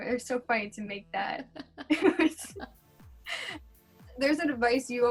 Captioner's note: laughs